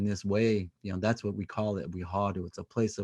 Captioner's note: speaking native language